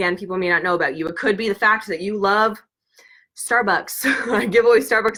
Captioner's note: laughs